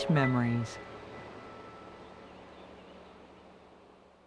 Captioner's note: surf breaking, seagulls calling